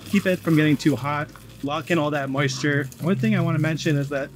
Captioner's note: wood chips rustling